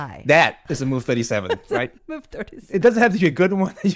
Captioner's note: laughs